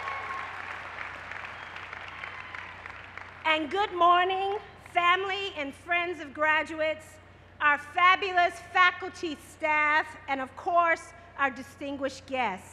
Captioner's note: cheers and applause